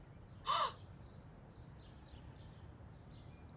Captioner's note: gasps